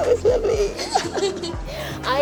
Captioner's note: laughing